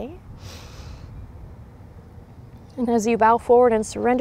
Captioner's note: takes deep breath